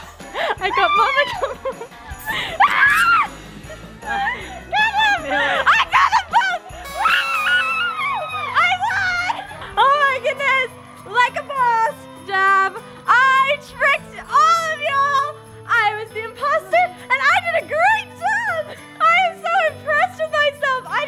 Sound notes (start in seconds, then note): 2.6 screaming; 6.8 celebratory screaming